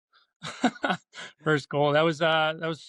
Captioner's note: laughs